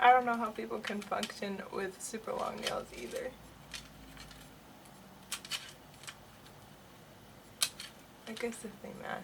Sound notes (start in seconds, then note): 5.5 plastic clicks